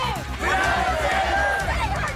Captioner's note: crowd